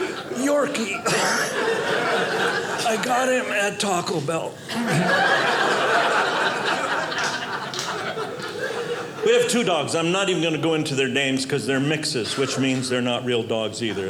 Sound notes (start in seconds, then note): 4.6 audience laughing